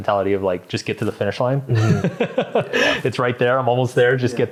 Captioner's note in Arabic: يضحك